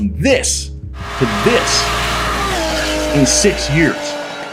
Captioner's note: car engine revving